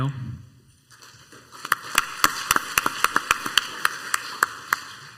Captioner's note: crowd applauds